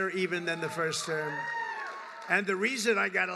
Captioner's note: applause